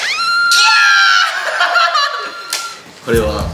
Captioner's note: screams